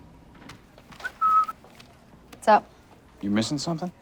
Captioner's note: whistles